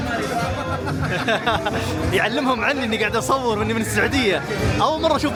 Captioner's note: laughs